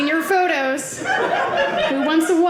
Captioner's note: audience laughing